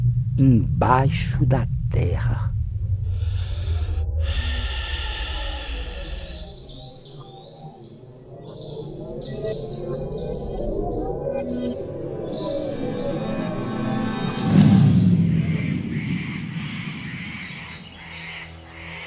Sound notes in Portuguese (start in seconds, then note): 2.5 Vibração intensifica; 2.9 Respiração profunda; 5.5 Canto dos pássaros distorcidos; 17.0 Canto de araras distorcidos